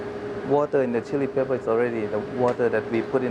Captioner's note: voiceover